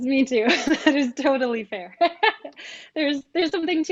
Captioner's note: laughs